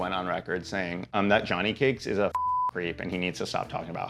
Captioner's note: beep